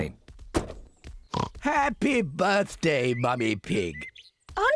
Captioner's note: oinks